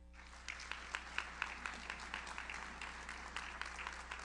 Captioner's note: audience applauds